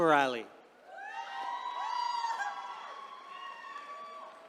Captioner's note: attendees cheering